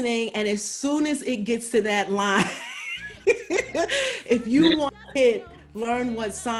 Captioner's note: laughs